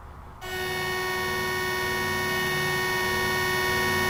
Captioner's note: alarm buzzing